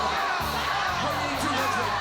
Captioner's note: fans jeering